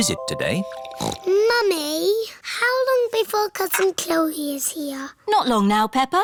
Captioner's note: snorts